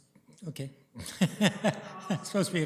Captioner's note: laughs